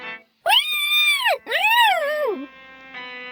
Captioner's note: cat Yelps